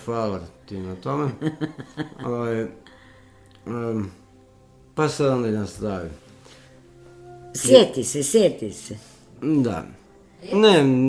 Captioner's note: laughter